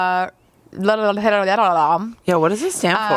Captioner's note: makes silly sounds